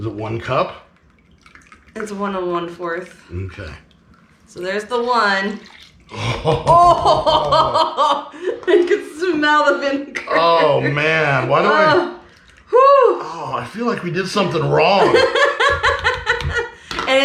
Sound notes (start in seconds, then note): 6.6 exclaiming; 15.0 laughing